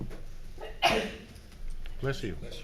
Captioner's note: sneezing